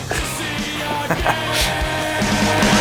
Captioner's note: evil laugh